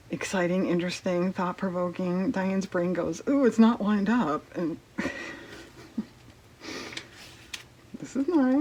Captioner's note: laughs